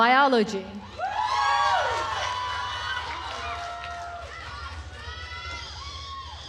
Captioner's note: attendees cheering and applauding